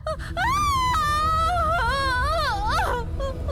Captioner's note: scream of Agony